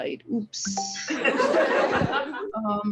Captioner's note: audience laughs